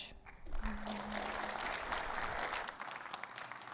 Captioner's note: audience applauding